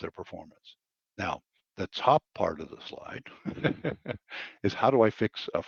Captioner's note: laughs